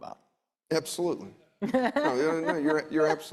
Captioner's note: laughing